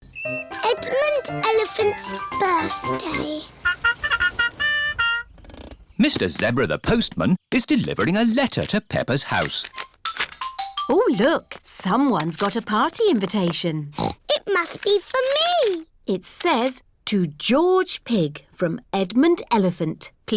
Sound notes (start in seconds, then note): 2.5 horn tooting; 13.9 snorts